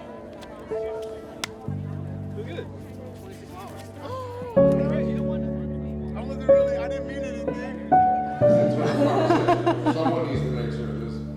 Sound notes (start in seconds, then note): 1.4 hands slap; 4.0 person gasps; 8.6 people laughing